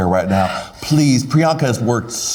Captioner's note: Priyanka exhales